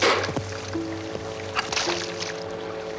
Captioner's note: metal pop; splash